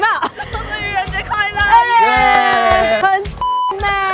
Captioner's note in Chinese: 眾人歡呼